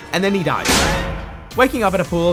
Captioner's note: bonk